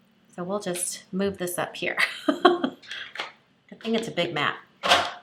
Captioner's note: laughs